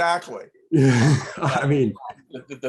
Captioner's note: laughing